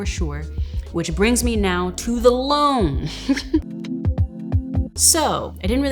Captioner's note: laughs